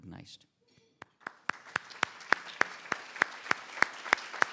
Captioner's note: everybody applauds